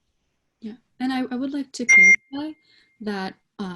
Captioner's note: beeping drowns out